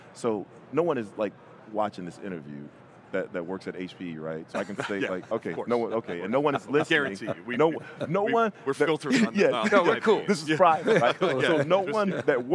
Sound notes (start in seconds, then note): 4.5 chuckling